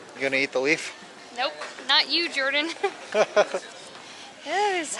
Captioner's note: laughter